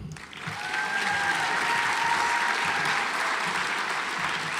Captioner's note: audience applauds